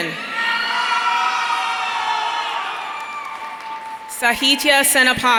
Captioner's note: audience cheering